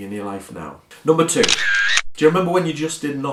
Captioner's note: camera shutter clicks